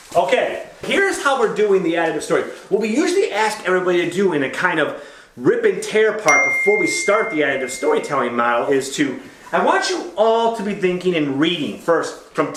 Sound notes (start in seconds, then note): 6.2 ding